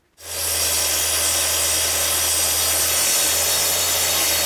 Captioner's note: machine whirring